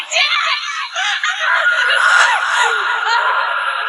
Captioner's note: screaming